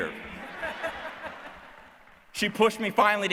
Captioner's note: laughter